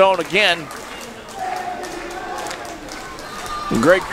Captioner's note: crowd cheering